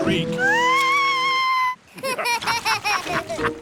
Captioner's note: shrieks; laughter